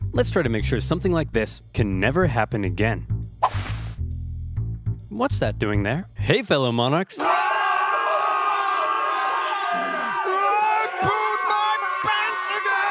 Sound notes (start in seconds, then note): 3.4 air whooshes; 7.2 all screaming